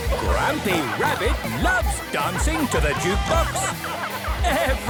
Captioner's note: shouting